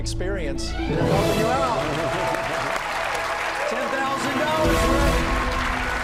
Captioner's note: laughs